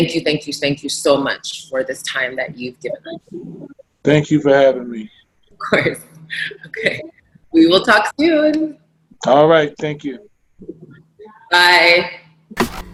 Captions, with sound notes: Thank you, thank you, thank you so much for this time that you've given. - And thank you for having me. - Of course (laughs), okay. We will talk soon! - All right, thank you. - Bye.